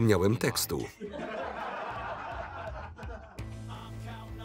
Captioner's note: laughter